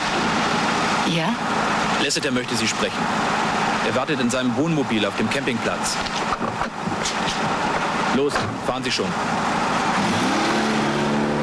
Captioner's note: speaking German